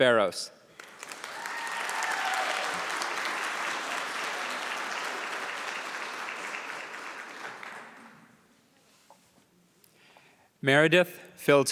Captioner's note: applause